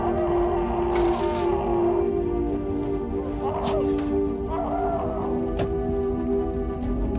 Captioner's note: fire crackling; John screaming